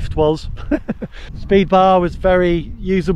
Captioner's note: laughs